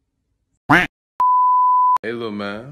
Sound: TV Color Bars Sound Effect

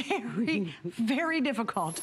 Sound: laughter

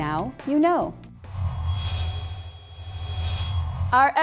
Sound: sound Effects

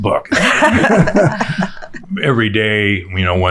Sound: all laughing

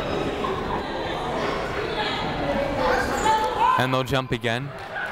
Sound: people talking in the crowd

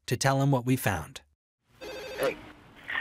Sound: phone rings

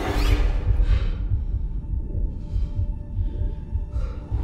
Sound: breathing heavily

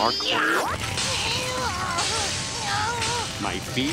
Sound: groaning

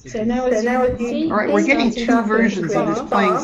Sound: voiceover

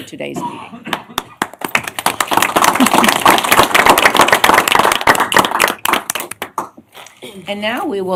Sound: applause

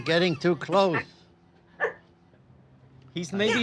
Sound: laughing

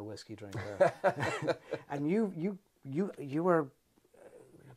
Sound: both laugh

